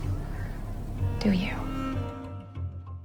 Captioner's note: voiceover